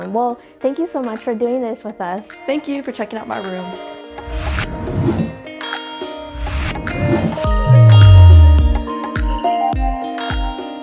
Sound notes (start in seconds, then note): 4.2 air whooshing; 6.3 upbeat music